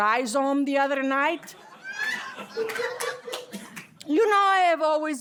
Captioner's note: laughter